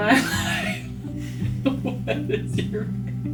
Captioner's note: laughing